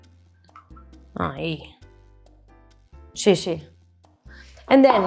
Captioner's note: speaks in Spanish